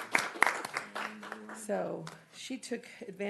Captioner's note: applause